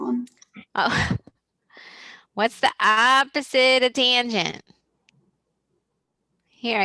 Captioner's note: laughs